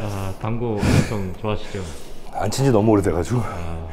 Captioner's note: sighs